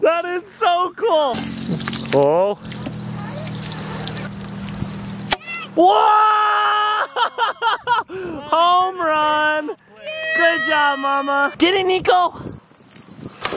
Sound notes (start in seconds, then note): 0.0 joyful yelling; 6.3 laughing